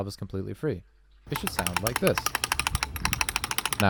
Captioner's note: completely unencumbered clacking